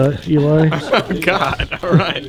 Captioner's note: laughs